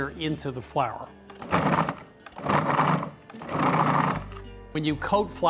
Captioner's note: processor pulsing